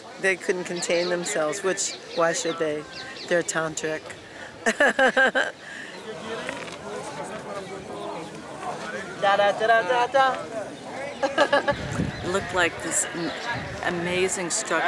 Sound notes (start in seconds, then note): 4.6 manic laugh